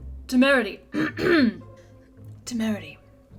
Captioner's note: clears throat